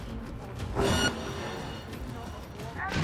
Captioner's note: ringing